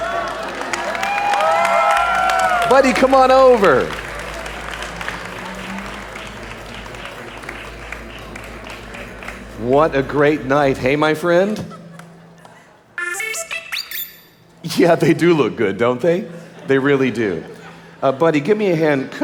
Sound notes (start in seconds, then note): 0.0 audience applauding; 4.2 audience applauding; 12.9 Budd-E beeping